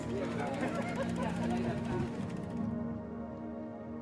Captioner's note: bike gears clicking